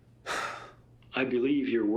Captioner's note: Kent sighing